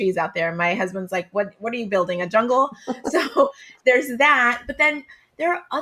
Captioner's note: laughs